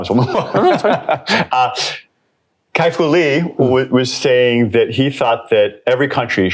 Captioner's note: laughs